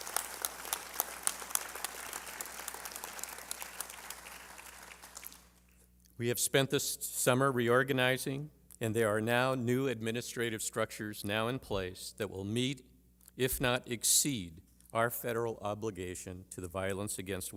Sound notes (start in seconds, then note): 1.5 applause